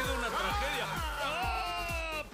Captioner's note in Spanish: gritan